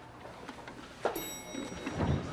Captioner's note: chiming of elevator bell